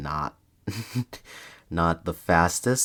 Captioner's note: laughs